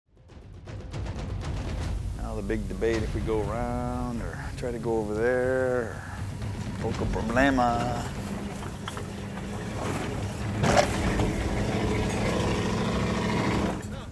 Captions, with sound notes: (powerful drumming) - Now the big debate. If we go around or try to go over there, (speaking foreign language). (engine revving)